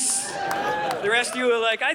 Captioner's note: audience laughing